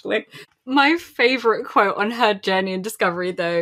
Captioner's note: laughing